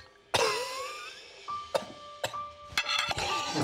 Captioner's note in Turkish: Öksürüyor